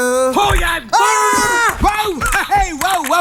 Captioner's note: mutual screams